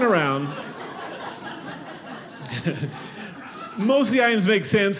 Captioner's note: audience laughing